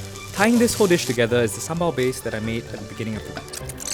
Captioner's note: voiceover